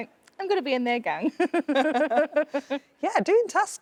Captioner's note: both laughing